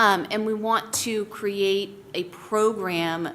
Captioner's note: none